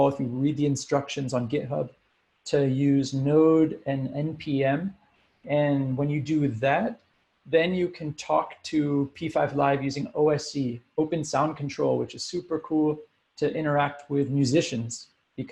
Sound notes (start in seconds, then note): none